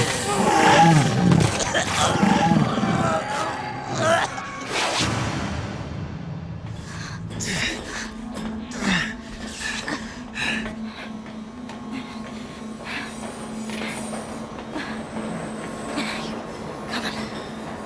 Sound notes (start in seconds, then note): 0.0 coughing; 6.7 both panting